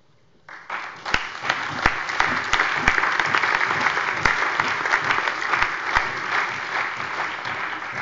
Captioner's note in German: Allgemeiner Beifall